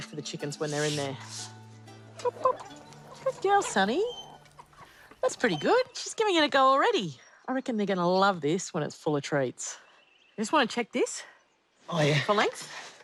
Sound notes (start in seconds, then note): 2.0 chickens cluck; 2.1 clucks